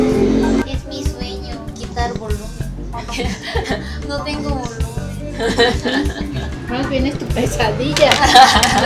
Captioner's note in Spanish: risas